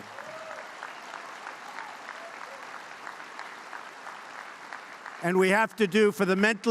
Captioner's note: applause